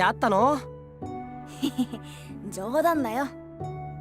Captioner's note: chuckle